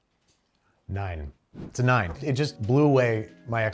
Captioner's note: plate clinks; air whooshes